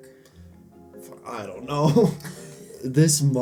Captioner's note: laughs